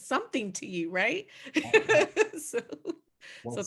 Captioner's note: laughing